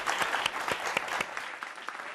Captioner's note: applause